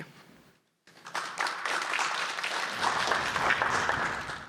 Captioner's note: applause